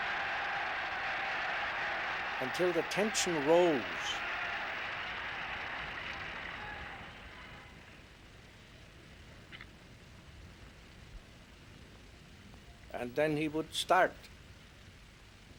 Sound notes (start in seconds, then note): 4.8 applause